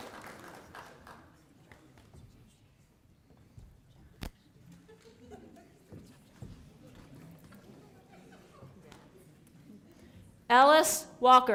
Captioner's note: applause